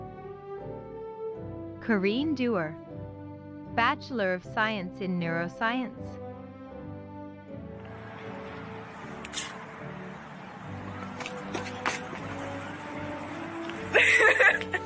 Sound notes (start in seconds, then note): 9.0 applauding; 11.8 laughing